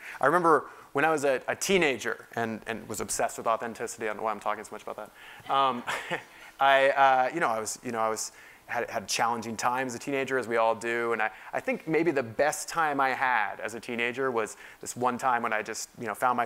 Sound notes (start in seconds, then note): 5.5 laugh